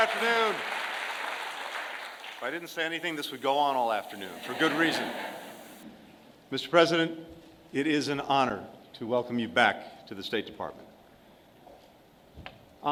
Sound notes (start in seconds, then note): 0.0 applause; 4.0 laughter